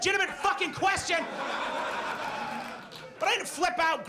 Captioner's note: audience laughs